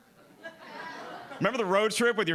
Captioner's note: audience laughing